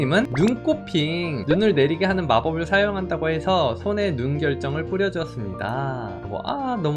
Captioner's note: voiceover